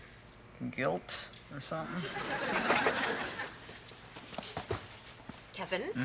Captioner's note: audience laughs